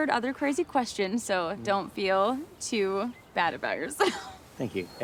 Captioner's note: laughs